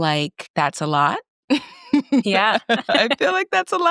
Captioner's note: laughs